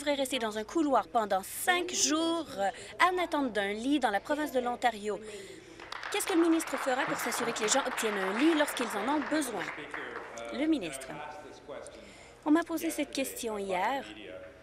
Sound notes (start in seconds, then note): 9.3 applause